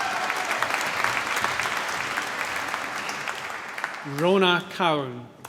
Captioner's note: cheering, applause